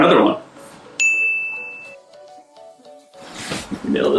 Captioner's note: ding